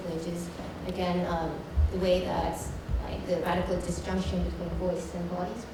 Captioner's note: none